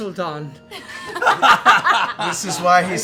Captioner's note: laughter